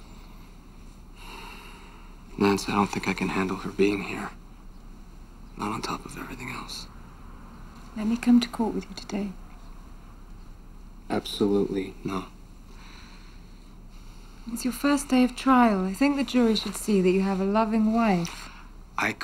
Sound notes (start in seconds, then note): 1.4 sighs